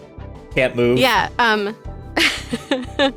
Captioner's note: chuckles